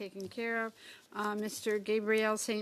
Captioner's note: speaking French